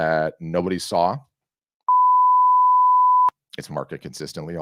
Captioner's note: loud beeping